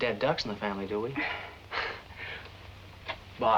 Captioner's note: both chuckling